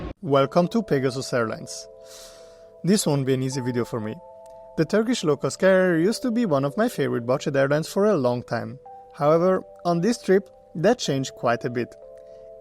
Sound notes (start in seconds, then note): 2.1 sigh